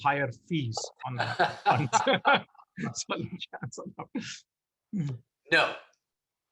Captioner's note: laughs